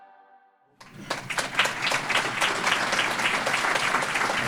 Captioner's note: applause